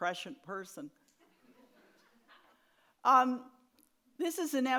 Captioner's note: audience laughs